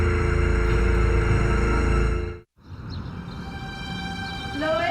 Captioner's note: dial tone buzzing